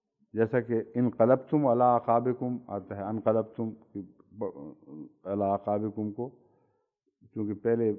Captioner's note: Arabic